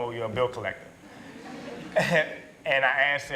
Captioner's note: laughter